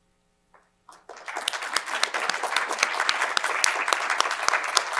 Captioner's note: crowd applauds